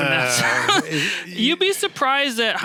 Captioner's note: laughs